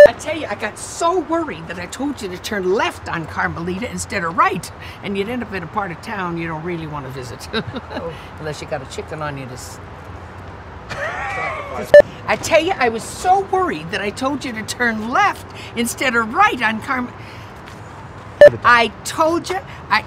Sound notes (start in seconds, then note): 7.5 laughs; 10.9 laughs